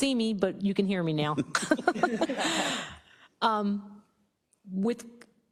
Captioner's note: laugh